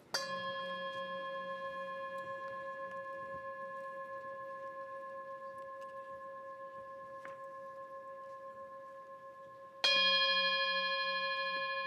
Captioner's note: bell Ringing